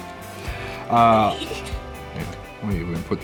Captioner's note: laughs